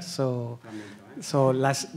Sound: speaks faintly

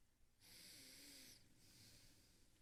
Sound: heavy breathing

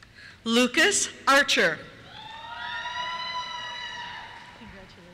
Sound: cheers

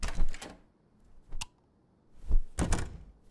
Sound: door opens; Lightswitch

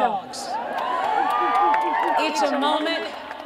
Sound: cheering

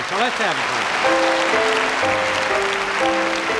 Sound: audience applauding

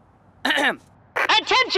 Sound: clears throat

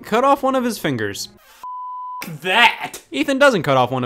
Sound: beep

